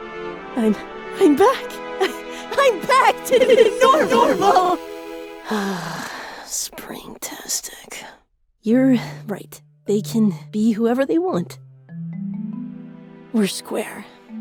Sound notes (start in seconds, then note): 5.4 sigh